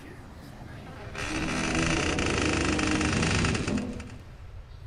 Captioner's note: door creaks